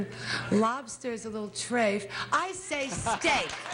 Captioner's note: cheers and applause